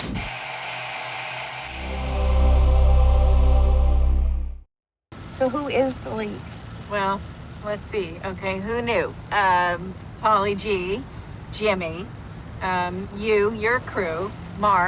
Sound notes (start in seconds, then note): 0.1 intro plays; 5.2 camera whirring